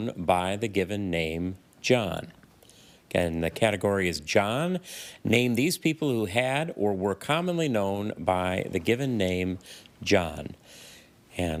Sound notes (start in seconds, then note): none